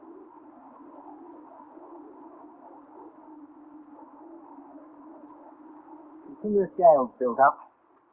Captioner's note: silence